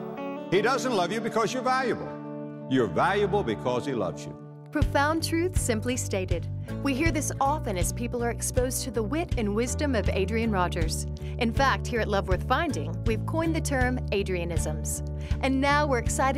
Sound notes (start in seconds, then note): none